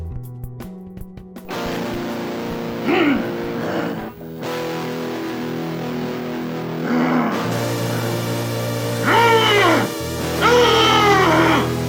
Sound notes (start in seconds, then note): 1.4 hostile guitar riff; 2.2 monster growls